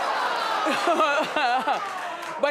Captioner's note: audience groaning; Wendy laughing